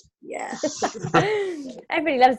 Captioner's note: laughter